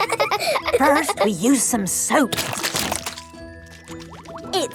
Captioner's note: laughing; squirt! squirt!